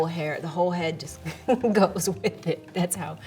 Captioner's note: laughs